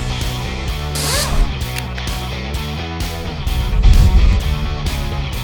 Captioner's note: wrench whirring